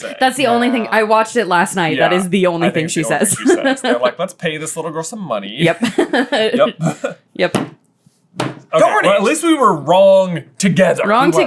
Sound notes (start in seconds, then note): 5.7 laughing